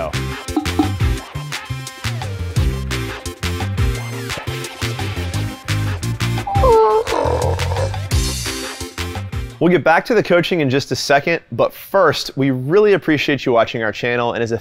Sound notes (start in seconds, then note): 0.0 upbeat music; 6.4 imitates velociraptor noise